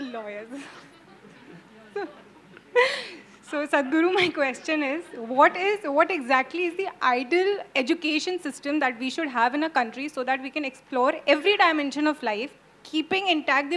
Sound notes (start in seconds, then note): 0.5 laughs